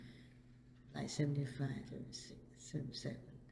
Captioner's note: thinking aloud